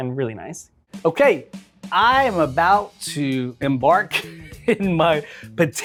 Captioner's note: laughs